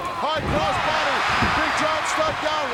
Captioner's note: audience cheering